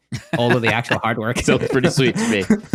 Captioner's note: laughs